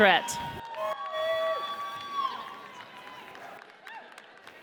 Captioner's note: audience cheers